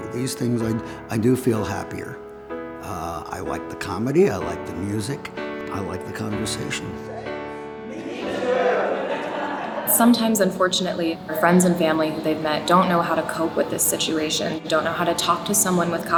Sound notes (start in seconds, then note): 7.8 laughing